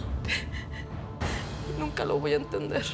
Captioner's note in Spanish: Sollozos